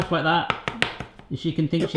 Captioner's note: giggles